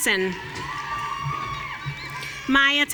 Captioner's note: audience cheering